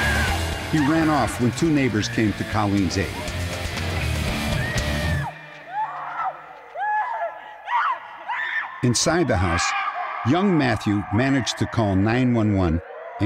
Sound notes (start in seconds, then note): 3.9 screaming